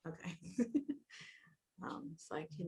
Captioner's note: laughs